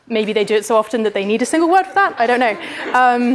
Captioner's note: laughter